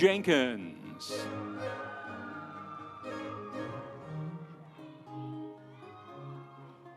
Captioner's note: audience cheering; instrumental music